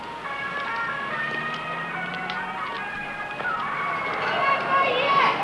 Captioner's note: bustling street sounds